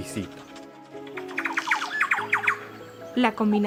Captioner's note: sounds of tropical birds